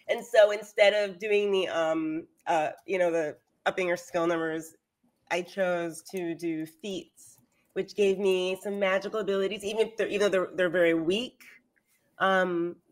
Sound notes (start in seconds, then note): none